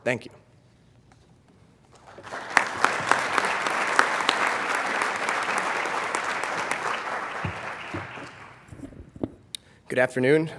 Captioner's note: applause